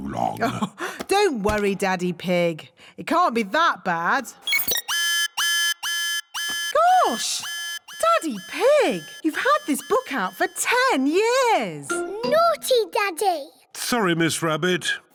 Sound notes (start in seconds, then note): 0.1 chuckles; 4.4 beeping; 4.5 alarm blares